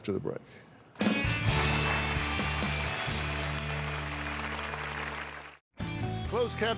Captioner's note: applause